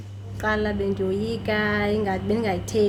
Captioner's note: speaks in foreign language